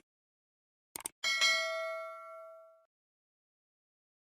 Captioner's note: bell dings